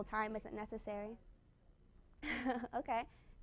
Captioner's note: chuckles